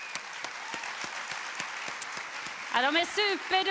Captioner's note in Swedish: Publiken applåderar